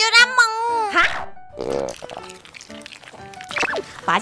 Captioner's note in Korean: 꼬르륵